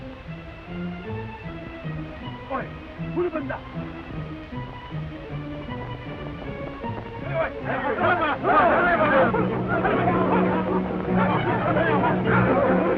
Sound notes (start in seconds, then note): 2.3 cat Worshiper speaks in foreign language; 7.3 Cat Worshipers chatter; 8.8 dramatic orchestral music